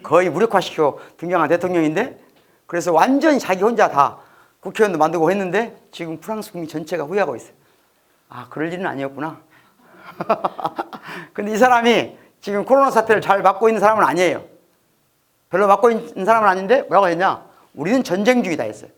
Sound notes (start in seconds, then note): 9.9 haha